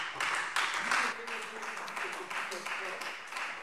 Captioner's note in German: Beifall Freie Demokraten